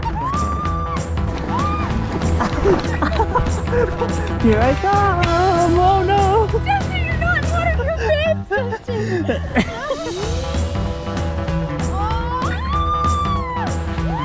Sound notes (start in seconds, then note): 0.0 giggles, screams etc; 3.4 laughs